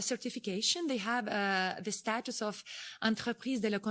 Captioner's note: speaking foreign language